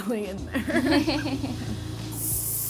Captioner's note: both laugh